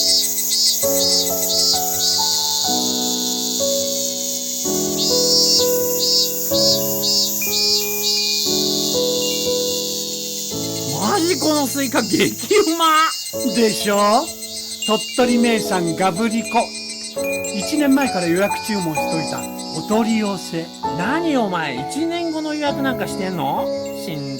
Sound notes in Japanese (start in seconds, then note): 6.9 蝉の声・風鈴の音